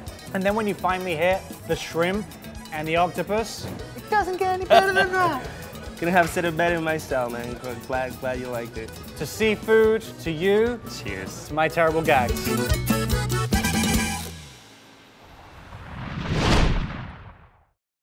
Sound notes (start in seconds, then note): 4.6 laughing; 13.1 fun exciting music